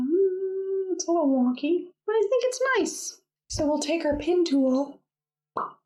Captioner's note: pop!